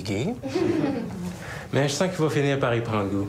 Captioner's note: Petits rires